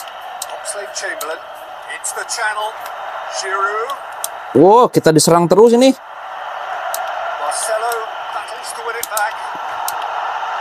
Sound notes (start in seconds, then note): 0.0 applause; 6.0 applause